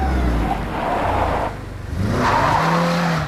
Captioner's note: Brakes squeal